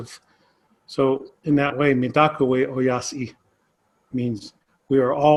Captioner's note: speaks in Native American language – not transcribed